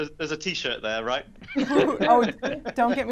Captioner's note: laughs